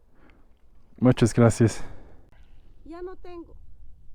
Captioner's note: in spanish